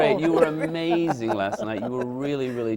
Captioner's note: laughs